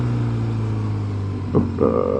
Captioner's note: engine